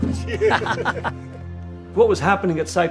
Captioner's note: both laugh; scoffs